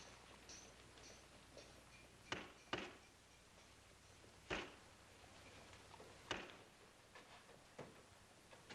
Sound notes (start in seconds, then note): 2.2 hammering sounds